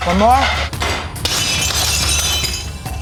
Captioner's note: glass shatters